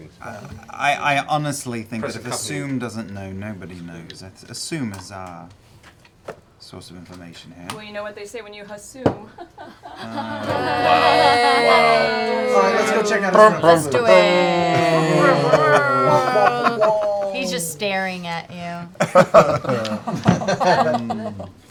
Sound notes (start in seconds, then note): 9.7 weak laughter